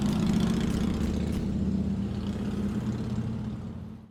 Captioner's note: motorcycle revving